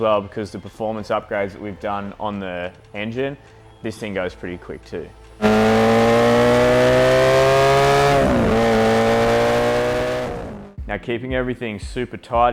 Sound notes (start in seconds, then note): 5.4 engine whines